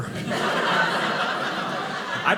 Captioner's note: audience laughing